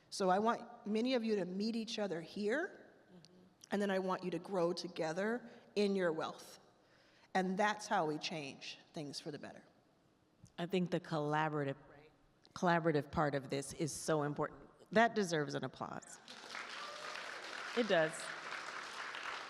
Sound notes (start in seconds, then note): 16.2 attendees applaud